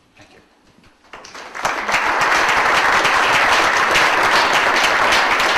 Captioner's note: audience applauds